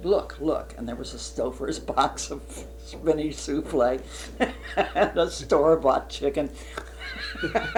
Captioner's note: laughs; laughter